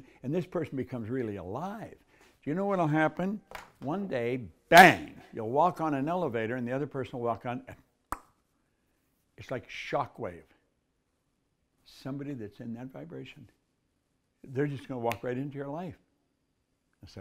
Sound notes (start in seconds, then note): 8.2 tongue clicks